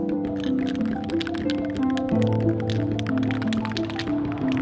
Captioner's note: spray paint can shaking